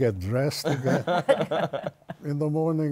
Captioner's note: laughter